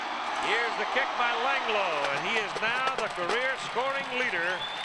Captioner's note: cheering and applause